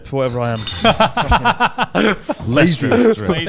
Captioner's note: laughing quickly